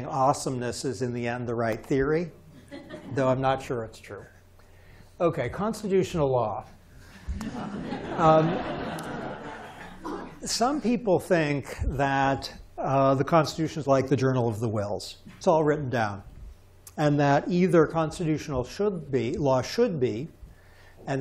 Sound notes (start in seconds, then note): 7.2 laughter